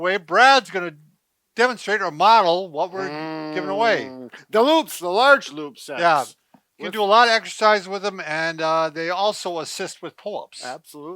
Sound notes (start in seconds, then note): 3.0 hums